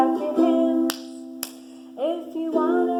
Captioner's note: claps